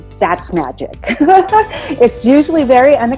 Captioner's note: laughs